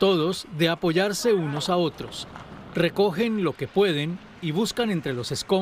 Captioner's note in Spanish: habla en ingés